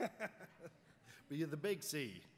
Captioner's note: laughs